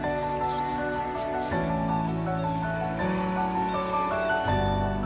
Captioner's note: baby skunks squealing; drone buzzing